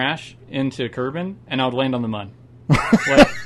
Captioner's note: laughs a lot